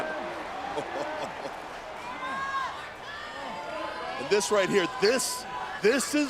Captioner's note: applause